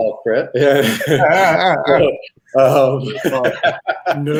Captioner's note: all laughing